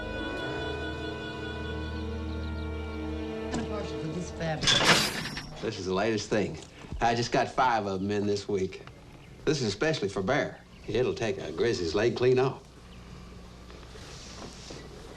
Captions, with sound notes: - I'm kind of partial to this fabric. (trap clanks) - This is the latest thing. I just got five of 'em in this week. This is especially for bear. It'll take a grizzly's leg clean off.